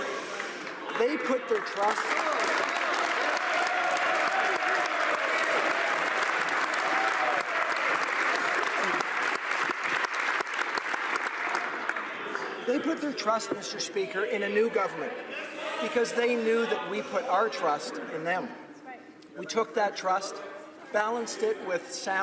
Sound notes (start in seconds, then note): 9.9 applause